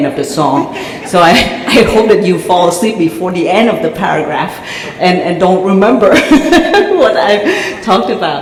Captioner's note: chuckle